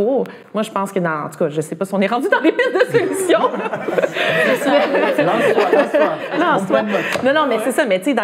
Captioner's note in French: rires